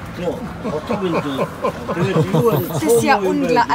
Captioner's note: laughing